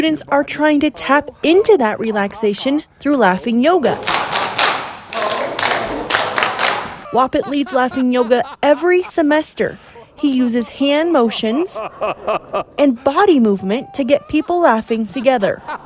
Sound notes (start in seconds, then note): 3.9 hands Clapping; 11.6 laughing